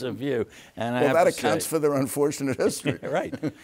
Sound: laughs

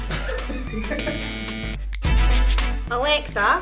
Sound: group laughs

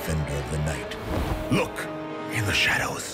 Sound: object flutters

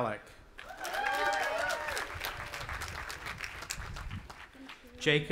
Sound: audience applauding and cheering

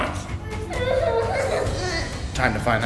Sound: fake crying

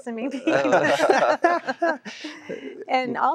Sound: laughter

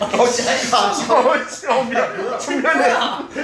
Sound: spits from laughing too hard LOL

